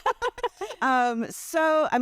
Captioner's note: everyone laughs